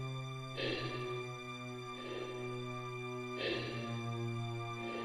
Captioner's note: Chemock breathes heavily